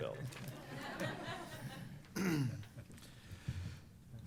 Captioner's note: laughter